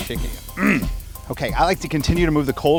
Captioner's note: clears throat